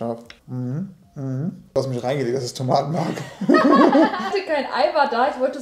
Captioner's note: both laughing